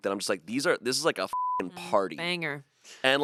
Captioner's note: beep